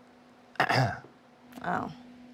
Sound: clears throat

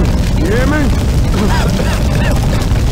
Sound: coughing

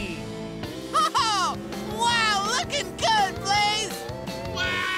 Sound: chuckles

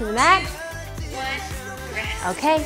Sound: beeps

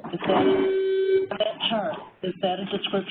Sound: loud beep

